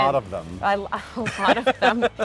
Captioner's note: laughing